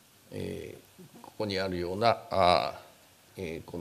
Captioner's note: speaking japanese